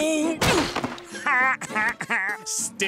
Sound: laughing

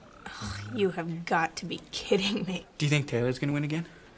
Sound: scoffs

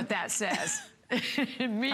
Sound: laughter

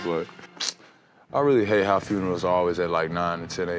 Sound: sucks teeth

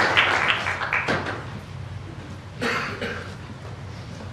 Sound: applause

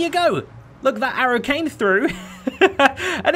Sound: laughs

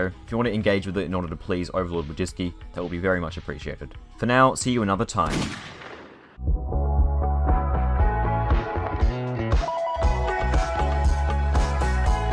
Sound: blam

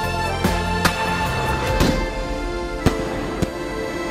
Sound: crackers bursting

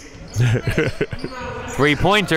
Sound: laughing

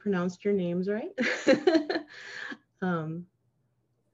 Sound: laughing

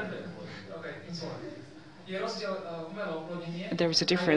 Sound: non-english

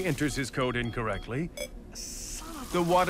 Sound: keypad beeps

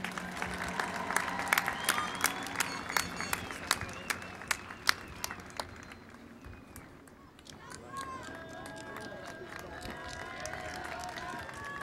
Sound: applause and Cheering

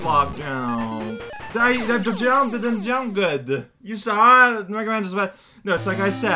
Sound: distressed sound

